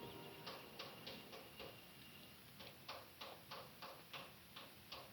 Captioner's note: distant hammering